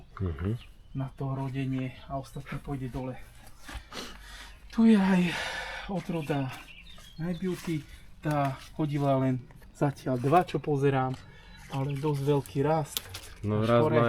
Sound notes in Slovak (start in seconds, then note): 5.2 vzdychanie